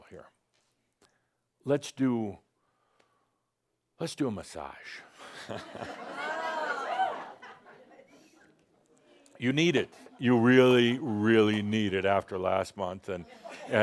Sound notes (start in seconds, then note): 5.2 laughter